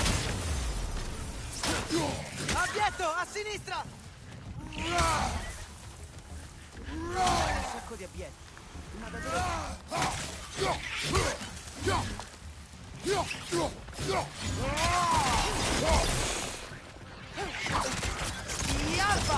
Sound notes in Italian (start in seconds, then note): 9.0 gemito